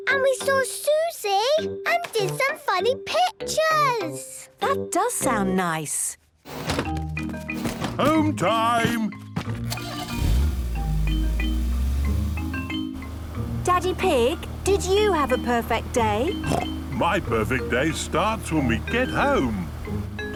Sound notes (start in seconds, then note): 9.6 engine starting